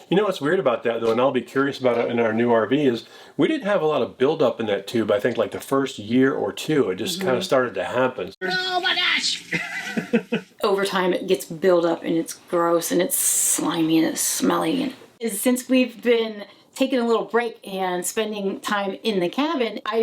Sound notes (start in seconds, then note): 9.5 laughing